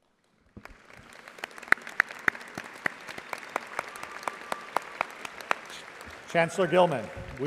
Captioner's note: audience applauding